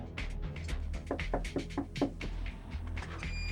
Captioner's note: knock on door